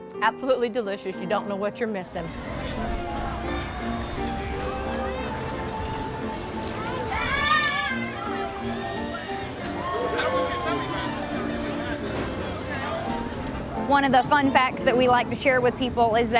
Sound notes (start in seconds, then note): 4.0 children shout excitedly